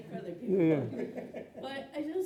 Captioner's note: laughing; laughs